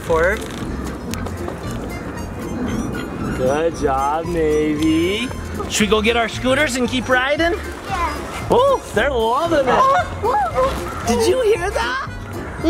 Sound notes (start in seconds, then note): 0.1 whimsical music; 10.4 goose honks